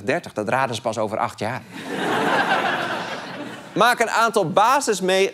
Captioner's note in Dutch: gelach